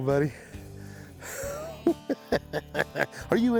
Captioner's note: chuckles